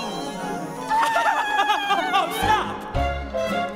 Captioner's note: Olaf laughing